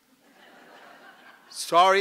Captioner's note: laughter